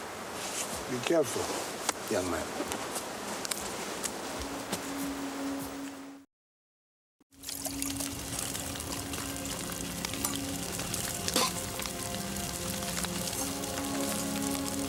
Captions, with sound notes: Be careful, young man. (gentle ethereal music) (fire crackling)